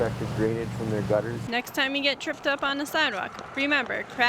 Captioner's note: voiceover